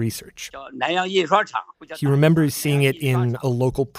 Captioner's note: speaking Mandarin